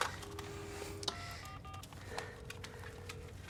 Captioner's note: dialing phone